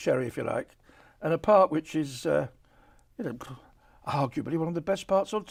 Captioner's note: exhales